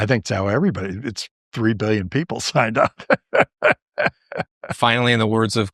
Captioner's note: laughter